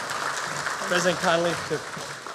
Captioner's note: applause